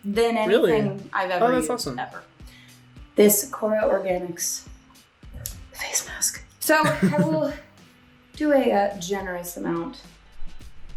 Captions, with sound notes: than anything - Really? - I've ever used ever. - Oh that's awesome. - This KORA Organics face mask. (laughing) So I will do a generous amount.